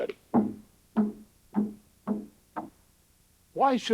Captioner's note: ball bouncing